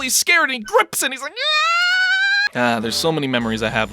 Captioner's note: girlishly Screams